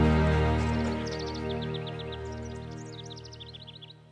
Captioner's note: birds chirping